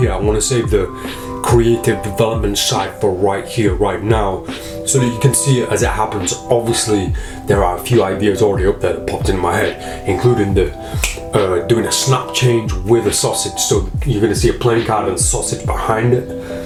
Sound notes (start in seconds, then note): 10.6 snaps; 16.4 snaps